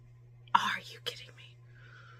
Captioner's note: whispered